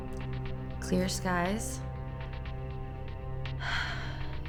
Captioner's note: sighs